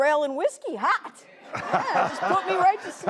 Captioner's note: laughing